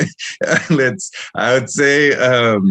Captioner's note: laughter